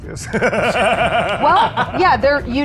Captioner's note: laughs